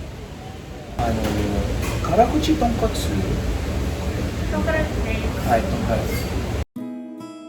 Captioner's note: orders food in Japanese